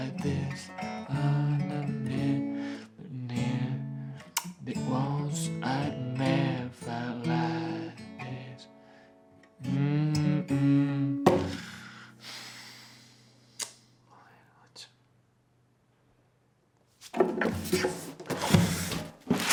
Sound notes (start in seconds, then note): 9.7 humming, stuggling to play; 11.4 sighs